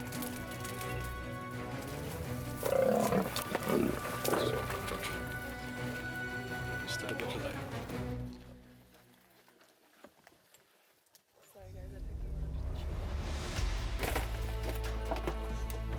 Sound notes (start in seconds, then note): 2.3 lion growls; 4.3 dramatic music